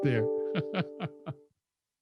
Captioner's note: laughs